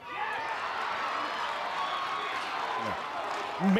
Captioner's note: crowd cheers